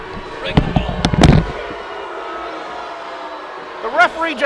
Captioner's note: crowd booing